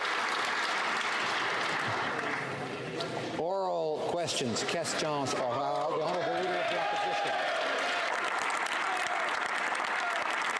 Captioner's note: applause